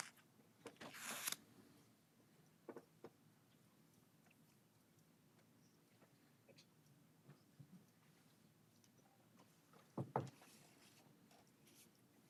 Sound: silence

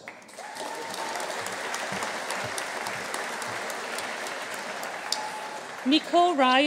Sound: audience applauding; audience cheering

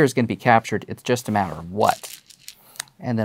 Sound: stones rattling

